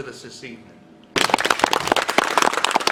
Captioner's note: clapping